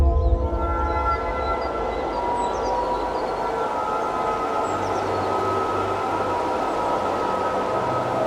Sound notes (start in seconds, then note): 2.6 gentle thoughtful music; 2.6 wind whooshing